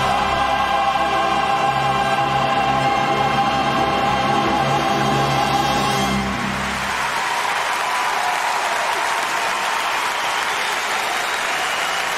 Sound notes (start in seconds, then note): 6.4 applause